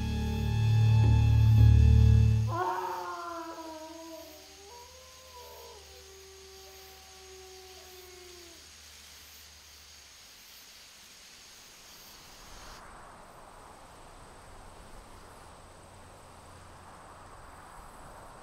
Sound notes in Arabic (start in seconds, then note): 2.4 يعوي الكلب; 2.4 يصرخ الرجل